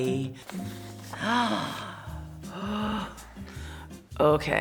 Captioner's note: gasping